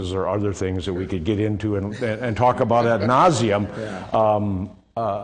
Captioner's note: laughing